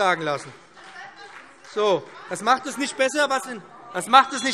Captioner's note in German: Zurufe DIE LINKE – Glockenzeichen